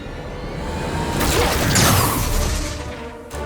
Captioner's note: sharp zapping